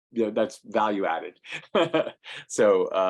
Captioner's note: laughing